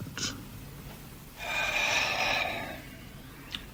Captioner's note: sighs